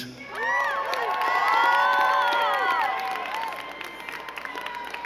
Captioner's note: crowd cheering and clapping